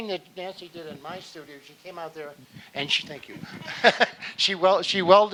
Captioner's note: laughing